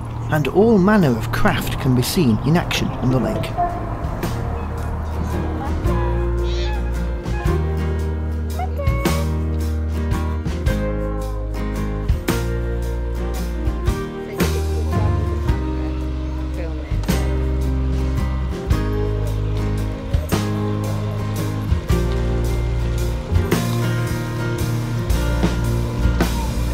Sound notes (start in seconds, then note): 7.4 sounds of activities on the lake